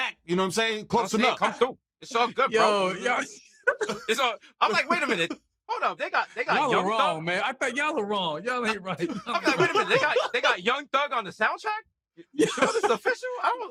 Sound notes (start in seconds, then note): 2.1 laughing; 8.6 laughter